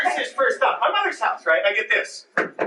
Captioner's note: knocking